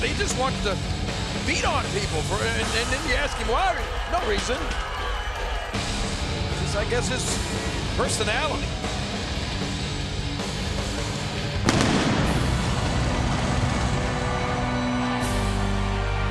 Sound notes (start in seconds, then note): 11.6 fire blasting; 13.4 somber music